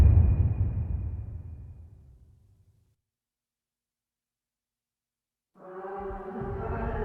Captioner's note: dramatic sound